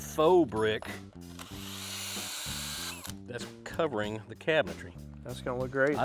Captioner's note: drill whirring